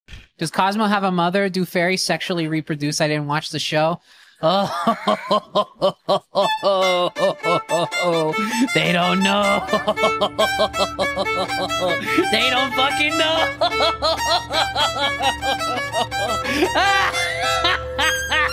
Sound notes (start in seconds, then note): 4.5 cackles with evil joy; 9.3 cackles; 13.1 laughs; 16.6 laughs maniacally